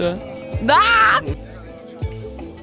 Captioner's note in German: freudenschrei